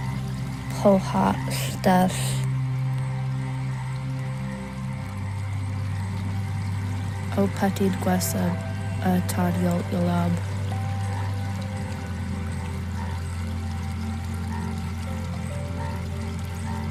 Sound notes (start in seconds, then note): 2.6 soft relaxing music continues; 7.4 narrator continues speaking in foreign language